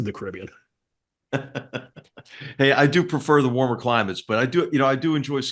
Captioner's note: laugh